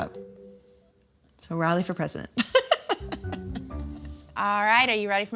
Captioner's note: laughs